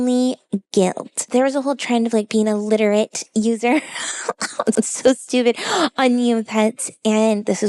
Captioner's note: laughs